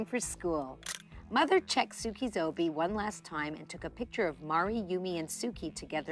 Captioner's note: camera snaps